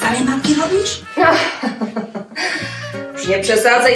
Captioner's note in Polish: śmiech